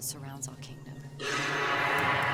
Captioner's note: roars